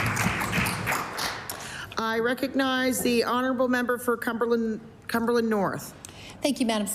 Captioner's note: applause